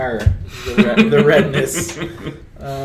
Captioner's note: laughs